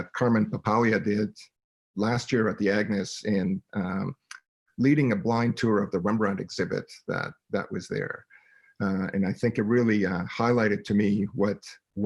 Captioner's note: speaking in French